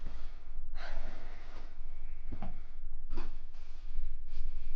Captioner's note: Claire sighs